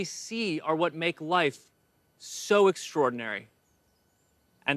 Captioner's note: distant birds calls